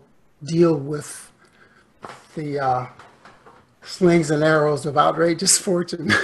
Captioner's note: laughs